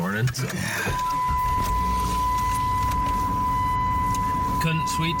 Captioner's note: car beeping continuously